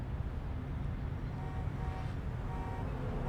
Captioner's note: car honking